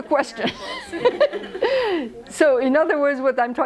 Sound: laughs

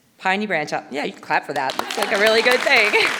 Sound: audience applauding

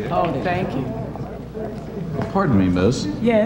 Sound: crowd chattering

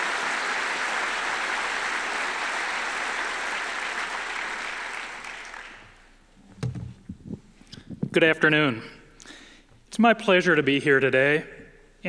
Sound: applause

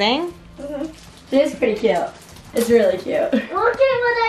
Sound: chuckles

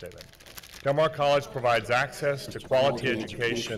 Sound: crowd

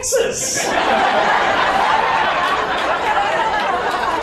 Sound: audience laughs

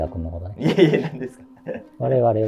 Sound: laughing

